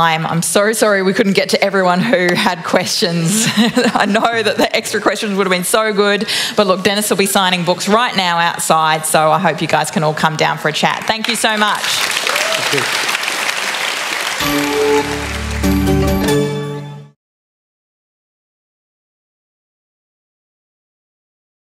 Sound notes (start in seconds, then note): 10.9 applause; 14.9 applause and music